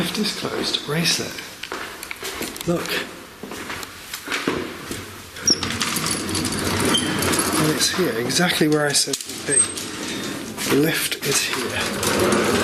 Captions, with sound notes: The lift is closed, embrace it. Look. (lift rattles) It's here exactly where I said it would be, the lift is here so.